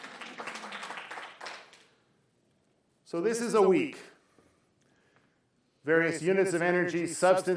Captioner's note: applause